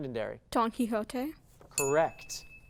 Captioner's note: ding